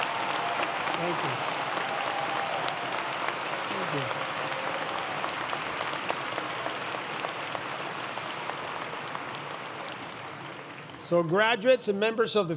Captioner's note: applause